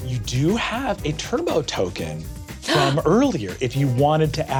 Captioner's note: gasps